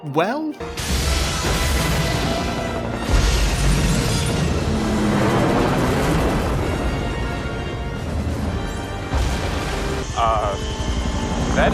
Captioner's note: explosions and dramatic music